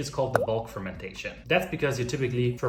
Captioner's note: liquid splashing